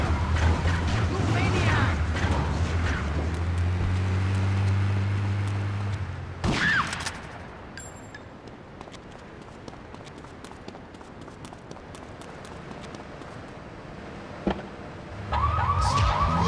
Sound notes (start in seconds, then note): 6.0 screaming; 7.8 sirens blaring